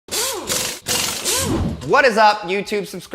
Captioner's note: drill tool noise